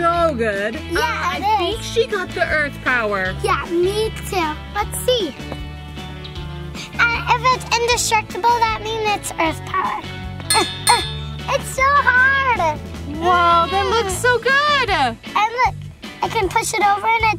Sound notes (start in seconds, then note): 10.5 metal clanging